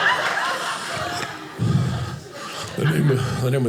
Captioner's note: audience laughing